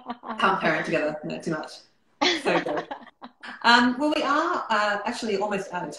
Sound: laughter

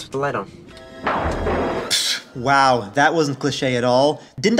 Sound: lightning crash

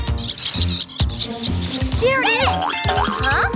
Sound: squeaking

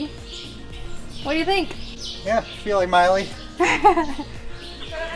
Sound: laughs

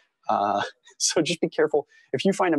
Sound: chuckle

